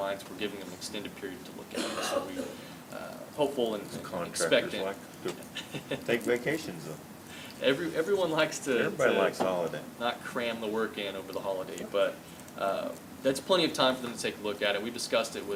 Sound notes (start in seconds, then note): 8.2 laughs